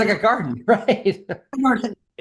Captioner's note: laughs